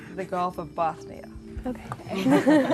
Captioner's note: laughing